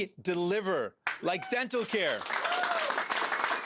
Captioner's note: applause